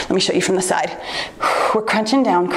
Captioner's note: exhales softly